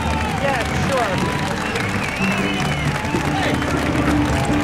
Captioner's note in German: Menge jubelt